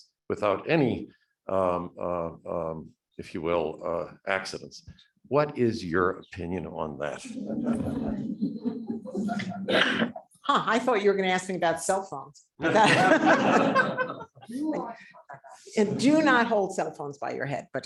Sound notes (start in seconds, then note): 7.2 audience laughing; 12.6 audience laughing